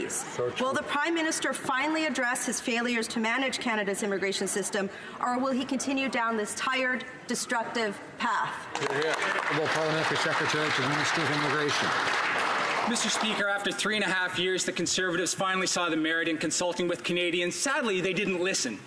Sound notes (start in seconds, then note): 12.0 some Applause